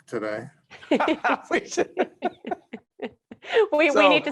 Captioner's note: laughing